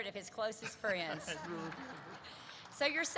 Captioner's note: laughter erupts